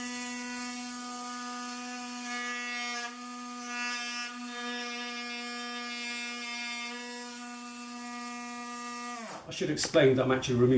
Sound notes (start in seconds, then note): 2.6 buzzing noise from the engraving pen